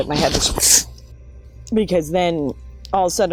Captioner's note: gasps